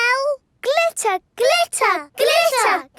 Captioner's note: chanting